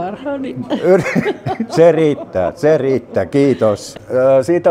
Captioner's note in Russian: смеется